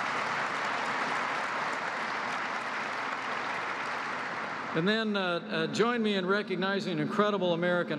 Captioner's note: applause